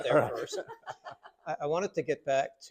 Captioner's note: doctors laughing